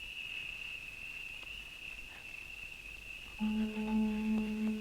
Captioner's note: insects chirring; tense music